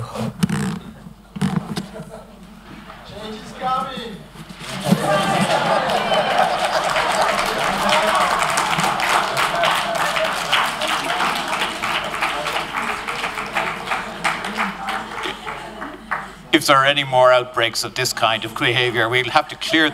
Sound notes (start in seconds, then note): 4.8 applause